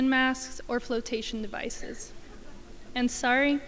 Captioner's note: crowd chuckling